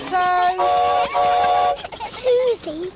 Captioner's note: horn toots